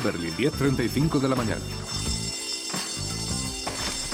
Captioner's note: school bell rings